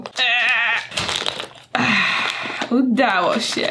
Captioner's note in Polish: Meeeeh; Ahhh